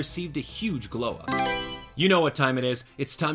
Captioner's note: Mario Selection Sound